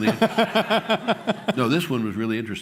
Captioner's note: laughter